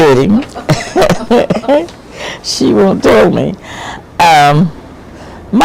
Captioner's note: laughing